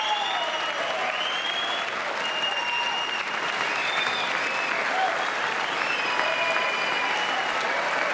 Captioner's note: applause